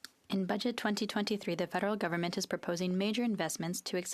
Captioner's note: speaking FRENCH